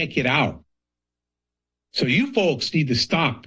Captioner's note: pause